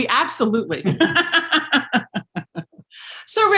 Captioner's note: laughing